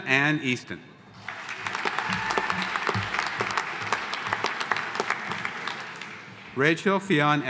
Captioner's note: audience applauding; audience cheering